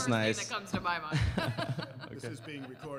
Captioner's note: laughter